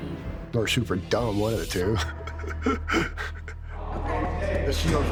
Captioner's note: laughing